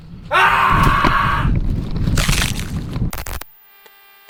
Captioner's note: Ruggiero's desperate scream